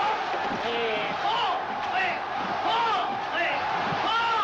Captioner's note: non-english speech